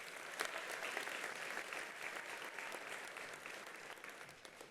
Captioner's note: attendees applauding